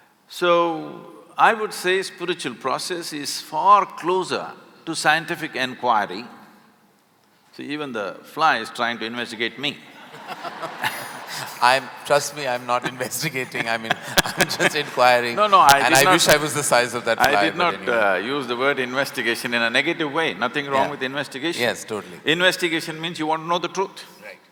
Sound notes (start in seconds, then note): 9.9 laughter; 12.8 both laugh